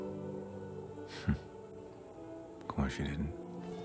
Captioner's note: laughs